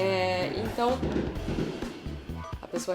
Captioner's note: fireworks